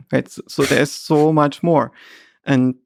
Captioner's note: Lex laughing